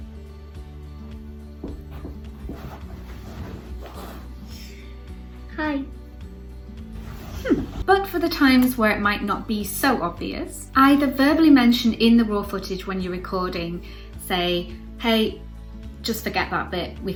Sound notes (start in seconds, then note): 1.6 footsteps